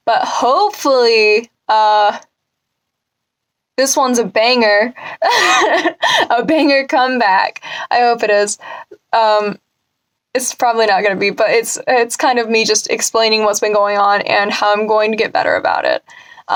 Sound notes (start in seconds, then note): 5.0 laughs